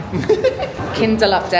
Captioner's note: laughing